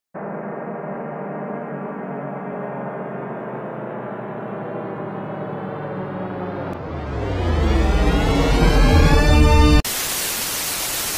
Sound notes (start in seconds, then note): 0.2 THX Deep Note; 9.5 static sound